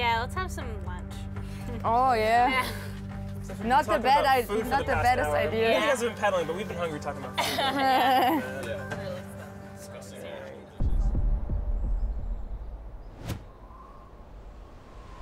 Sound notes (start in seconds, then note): 7.3 all laughing